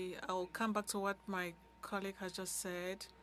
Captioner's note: speaking French